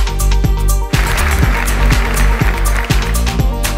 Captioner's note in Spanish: Aplausos